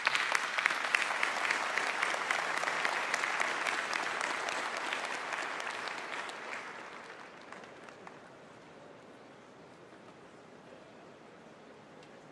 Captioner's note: applause